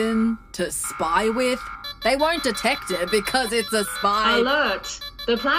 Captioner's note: beep beep beep!